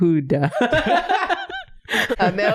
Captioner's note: laughing